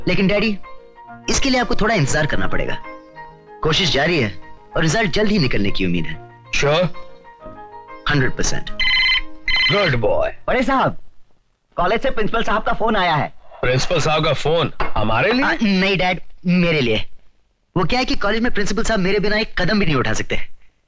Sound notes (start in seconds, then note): 8.5 telephone Ringing